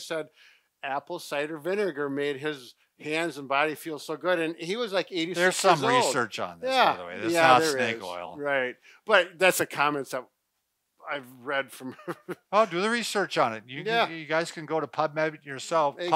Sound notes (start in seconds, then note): 11.8 chuckles